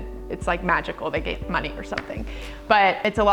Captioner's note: hands clapping